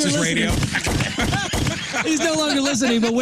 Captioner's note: laughing